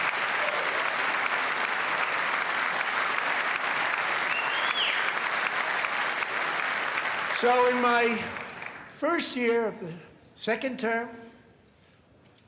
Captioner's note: applause